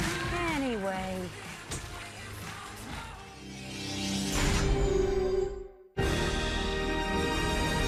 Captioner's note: cheers and applause